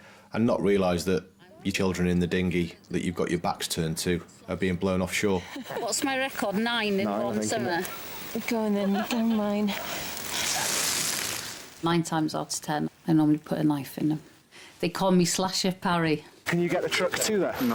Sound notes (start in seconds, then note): 5.7 chuckling; 8.7 speaker laughing